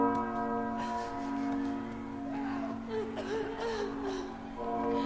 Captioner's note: coughing, yelling, soft crying